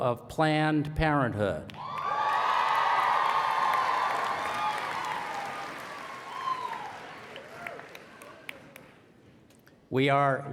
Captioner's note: applause